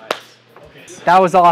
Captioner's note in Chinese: 鼓掌声